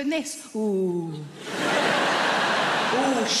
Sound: audience laughs

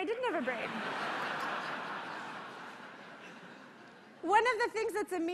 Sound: laughter

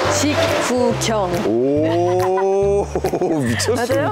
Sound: laughing

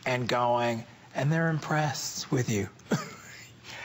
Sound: laughter

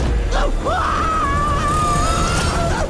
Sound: screaming

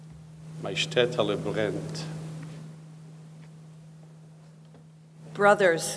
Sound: speaking in foreign language

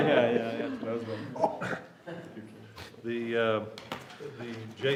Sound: laughter

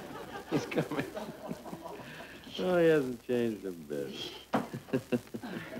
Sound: laughing

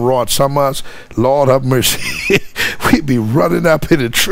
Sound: laughing

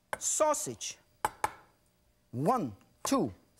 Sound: knife tapping

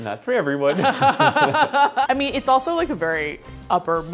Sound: laughs

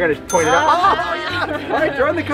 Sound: laughter

